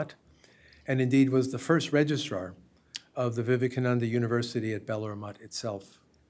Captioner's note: hindi